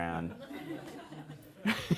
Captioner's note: laughter